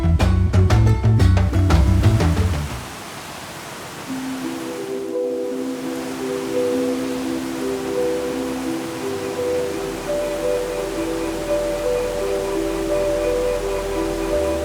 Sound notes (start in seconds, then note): 1.8 tranquil music; 1.8 water rushing